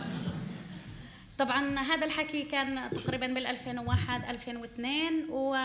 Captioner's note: speaking arabic